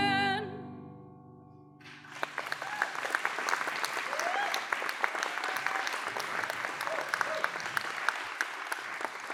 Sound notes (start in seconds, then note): 1.8 applause; 2.2 cheering